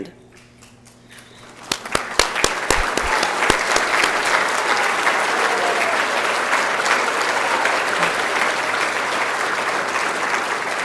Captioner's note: applause